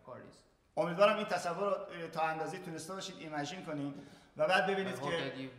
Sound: speaking in farsi

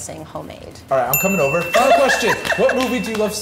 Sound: bell dinging

